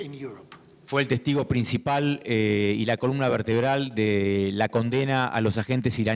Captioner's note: speaking in foreign language